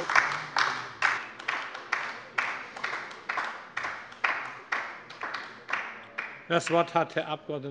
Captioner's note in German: Beifall bei der LINKEN